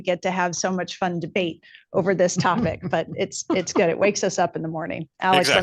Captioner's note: laughter